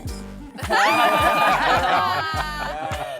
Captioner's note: laughing